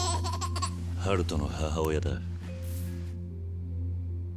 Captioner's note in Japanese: 笑い